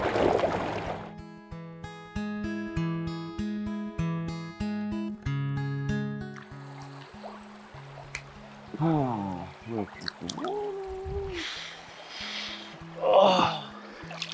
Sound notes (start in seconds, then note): 1.7 soft guitar music; 6.4 water sloshes; 6.6 can taps